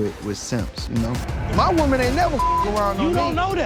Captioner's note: beep